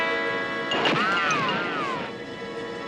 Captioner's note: gun fires